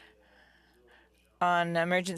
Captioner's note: speaking FRENCH